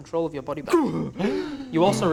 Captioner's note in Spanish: Inspiración fuerte